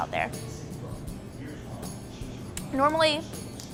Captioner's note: bar patrons chatting